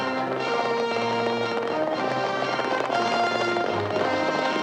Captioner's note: horses galloping